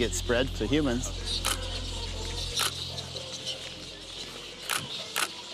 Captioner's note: camera clicking